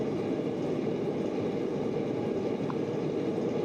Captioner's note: forge quietly roaring